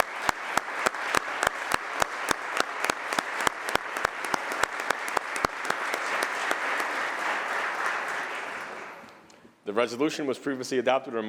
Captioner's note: applause